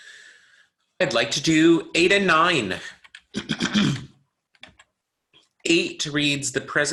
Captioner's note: clears throat